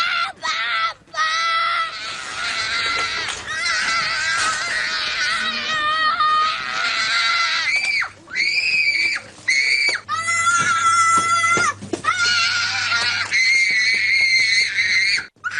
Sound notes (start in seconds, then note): 0.0 screaming